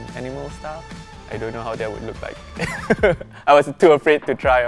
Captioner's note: laughs